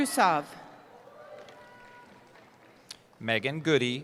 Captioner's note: cheering